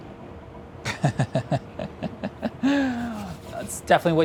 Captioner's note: laughs